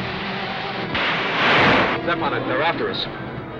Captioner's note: thunder crashing